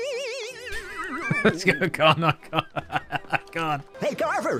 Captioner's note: laughing